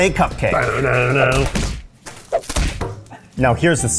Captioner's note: cupcake smashing